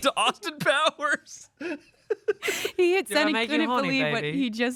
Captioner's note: laughs